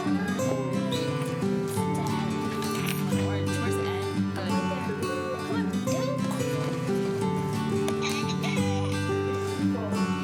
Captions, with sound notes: (keys jingling) - Where's N? Good. C'mon. (gentle acoustic music)